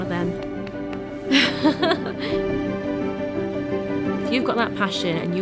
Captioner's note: laughs